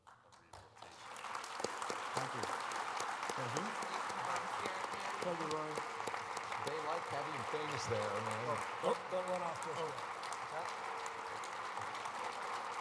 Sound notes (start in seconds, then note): 0.0 applause